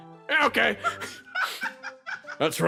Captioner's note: laugh